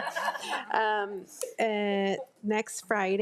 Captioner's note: attendees laugh